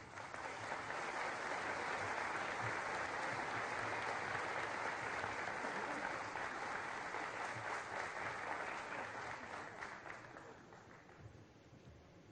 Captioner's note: applause